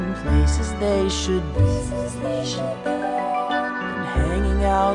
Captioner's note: Pebbles echo last words